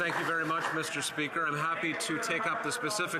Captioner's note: some Applause